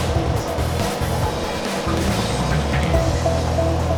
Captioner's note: machine whirring; upbeat music